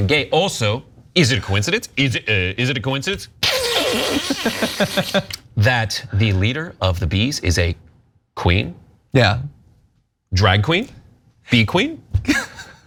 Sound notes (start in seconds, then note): 3.8 laugh